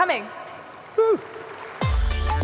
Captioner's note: applause